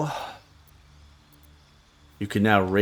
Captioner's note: silence